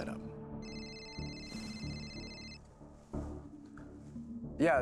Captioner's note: phone ringing